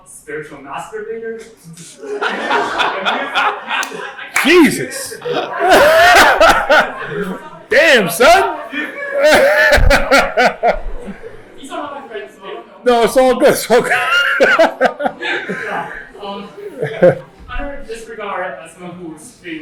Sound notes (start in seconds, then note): 1.9 laughter; 8.3 laughter; 13.8 laughs